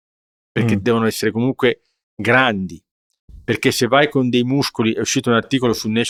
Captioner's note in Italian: schiarire la voce